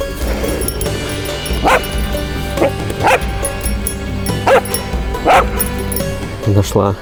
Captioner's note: dog barking